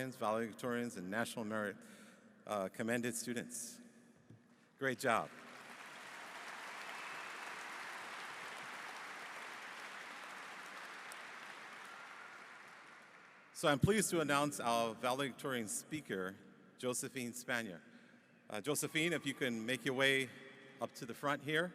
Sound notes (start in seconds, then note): 5.1 applause